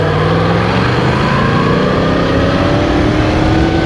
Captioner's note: 0-100km/h accelerate engine sound radio